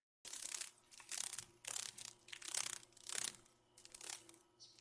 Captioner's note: sounds of a dragon fly